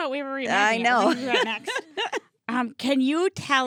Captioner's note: laughing